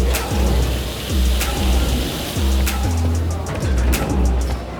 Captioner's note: dishes clanking; water running; upbeat music